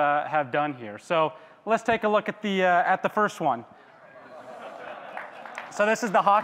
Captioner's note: audience claps